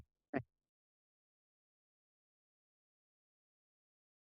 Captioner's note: silence